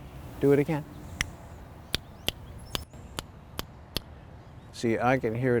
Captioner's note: snapping